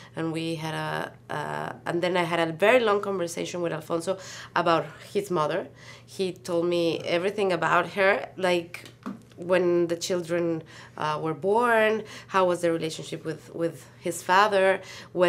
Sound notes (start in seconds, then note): none